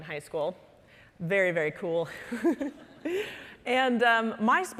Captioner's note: laughing